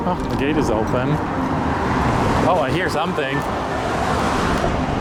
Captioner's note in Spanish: Autos pasando